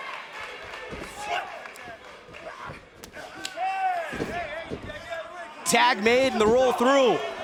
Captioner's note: cheers & applause